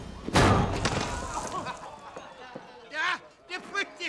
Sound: guys laughing

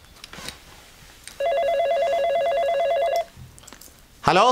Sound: phone rings

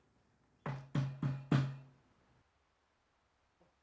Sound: knocking

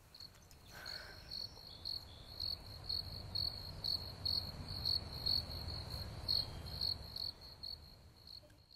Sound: crickets Chirping

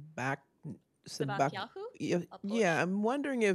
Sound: non-english

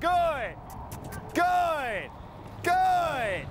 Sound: kiss sound

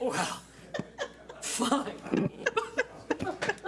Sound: laughs

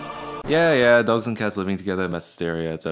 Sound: record scratch

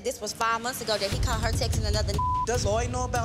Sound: beep

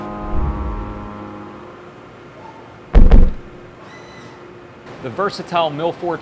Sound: machining Noises

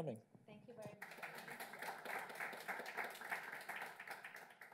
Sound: applause

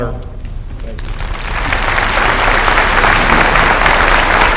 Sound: applause

